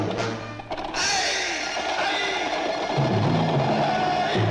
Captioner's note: Hercules yells